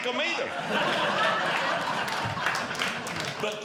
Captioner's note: audience Laughing